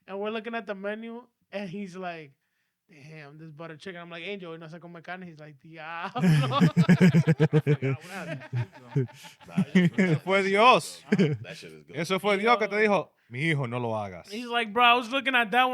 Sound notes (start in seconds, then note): 6.0 laughing; 6.2 speaking In Foreign Language